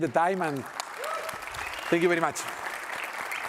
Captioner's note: applause